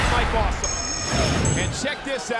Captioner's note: scene swooshing